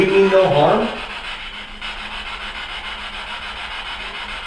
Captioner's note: static buzzing